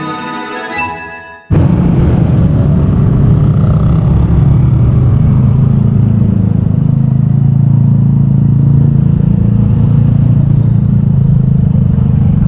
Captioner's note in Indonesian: suara sepeda motor